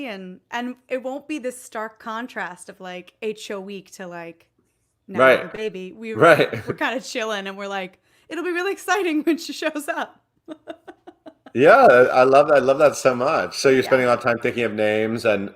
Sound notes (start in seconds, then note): 10.5 laughs